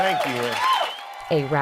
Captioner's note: cheering